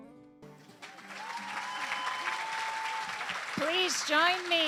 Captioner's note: applause